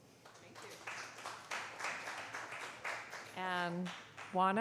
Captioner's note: applause